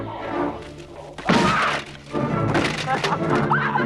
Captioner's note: armor clatters; both laughing